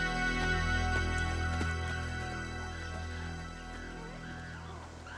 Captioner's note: animals squealing